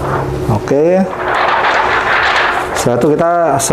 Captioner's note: PET film sound